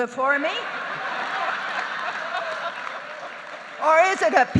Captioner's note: justices audience laughing